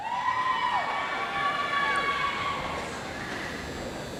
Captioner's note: audience applauds